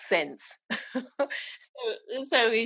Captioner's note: laughing